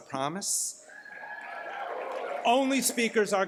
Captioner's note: cheers